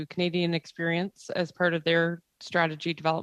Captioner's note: speaking French